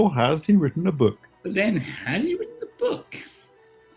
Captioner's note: raps